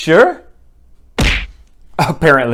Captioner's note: punching sound